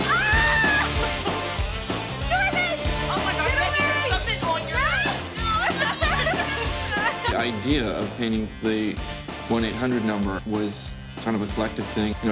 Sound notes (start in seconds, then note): 0.5 giggles; 5.9 laughs